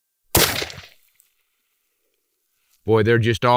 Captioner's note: gunshot